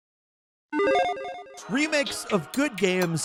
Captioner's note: logo chiming